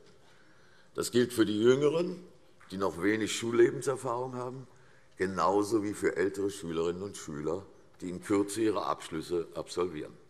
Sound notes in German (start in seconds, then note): none